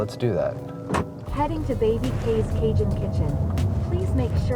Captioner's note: Waymo Car Voice